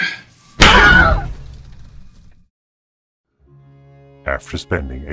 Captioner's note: gasps; loud pop and screams